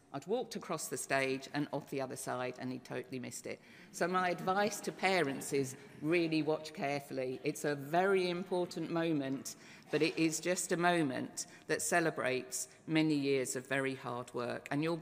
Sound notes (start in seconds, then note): none